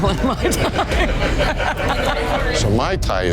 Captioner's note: laughs